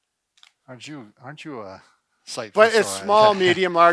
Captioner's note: murmurs